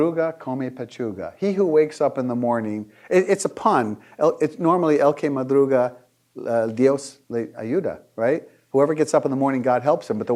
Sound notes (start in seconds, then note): 4.4 speaking foreign language